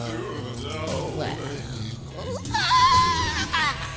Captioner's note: aahhhh!